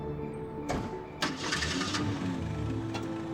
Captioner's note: car door shuts, car engine starts